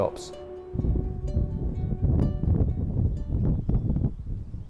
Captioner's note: beach sounds